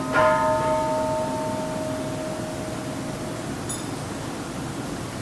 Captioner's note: Kansho ringing